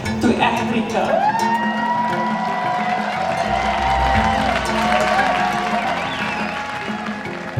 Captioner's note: people cheer; upbeat music